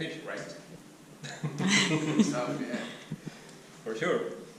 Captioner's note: laughing